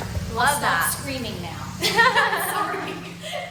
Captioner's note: laughs